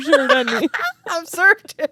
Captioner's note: both laughing